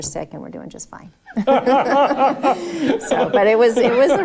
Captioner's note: laughing